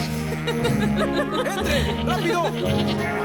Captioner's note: goats bleating